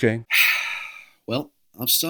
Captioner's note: sigh